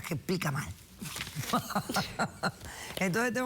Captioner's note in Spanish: Risas